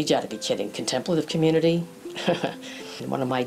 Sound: laughs

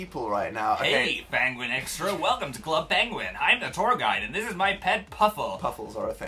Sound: in the worst voice

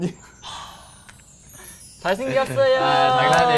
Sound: chimes

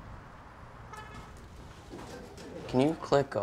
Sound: car hoots

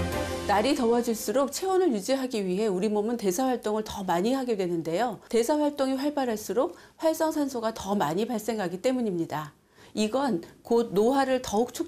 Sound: voiceover

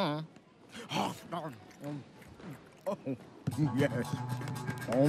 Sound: chomping

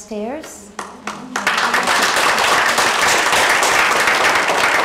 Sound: applause

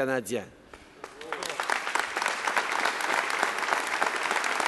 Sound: applause

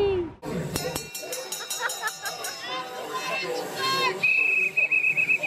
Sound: bartender rings bell; bartender blows whistle

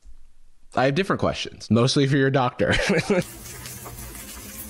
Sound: laughs

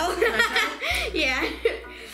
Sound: laughing

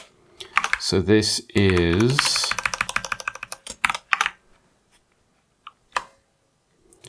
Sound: typing

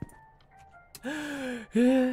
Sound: inhales

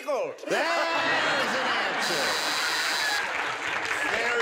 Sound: buzzer

